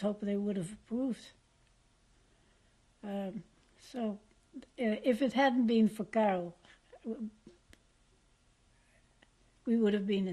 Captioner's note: pauses for 3 seconds